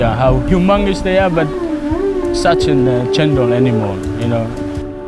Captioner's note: whale groaning